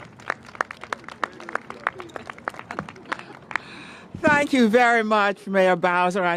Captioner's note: applause